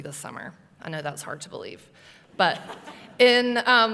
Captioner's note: laughter